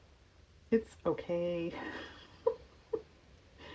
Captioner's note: laughs